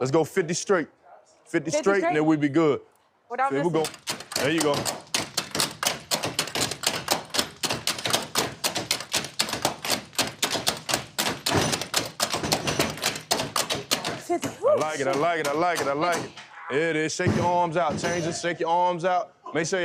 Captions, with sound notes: Let's go 50 straight. 50 straight and then we'd be good. There you go. There you go. [tools banging] I like it. I like it. I like it. I like it. There is is. Shake your arms out. Change it. Shake your arms out.